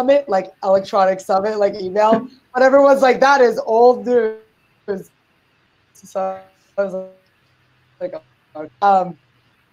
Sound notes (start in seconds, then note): 4.2 audio skips